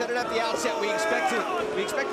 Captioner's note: crowd cheering